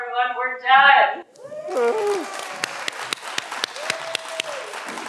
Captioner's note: everyone applauds